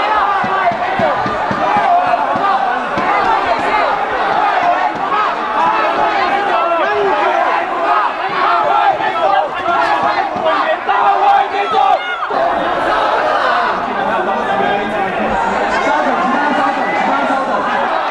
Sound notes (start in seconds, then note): 12.0 shouting